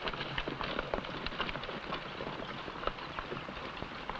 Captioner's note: horse hooves pattering